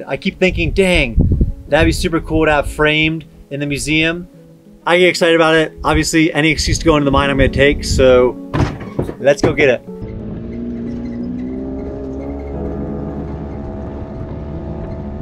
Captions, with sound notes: I keep thinking, "Dang, that'd be super cool "to have framed in the museum." I get excited about it. Obviously, any excuse to go into the mine, I'm gonna take, so let's go get it. (engine humming)